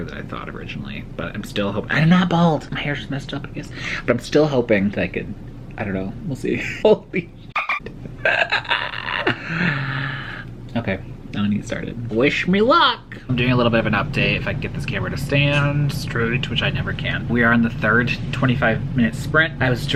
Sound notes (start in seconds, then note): 7.5 dolphin noise and the sound of me dying inside